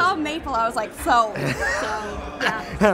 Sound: laughs

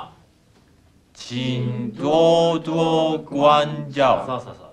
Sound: speaking Chinese

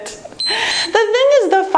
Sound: timer beeps

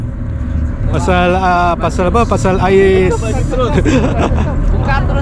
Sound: giggles

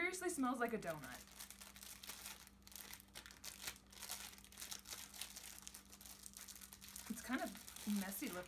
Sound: package crinkles

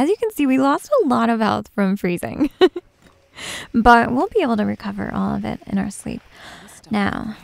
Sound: giggles

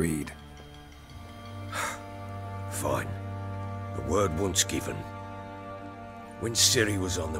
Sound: sigh

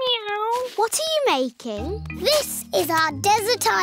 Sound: none

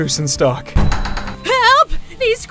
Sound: door bursts open

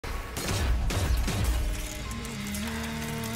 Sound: gunshots, glass breaking

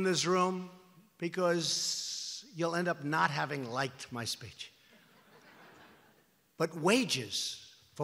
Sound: laughter

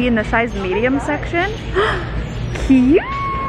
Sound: gasps

